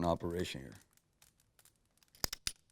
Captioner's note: gun clicks